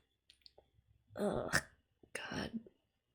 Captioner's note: pained noise